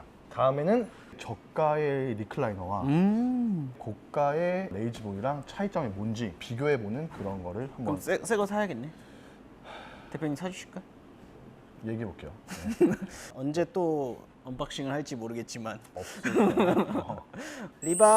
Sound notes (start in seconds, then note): 9.7 sigh